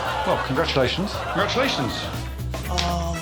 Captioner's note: Alex blows whistle